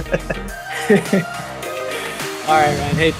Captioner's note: laughs